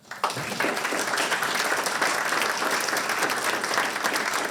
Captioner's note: audience clapping